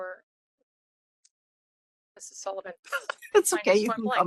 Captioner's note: laughing